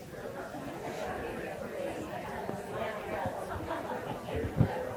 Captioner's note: people chattering